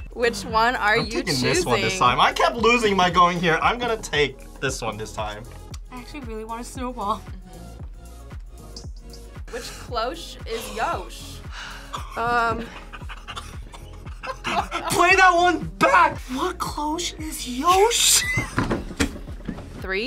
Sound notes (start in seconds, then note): 11.6 both laugh; 11.6 laughs; 18.0 laughs